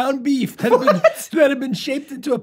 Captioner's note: laughs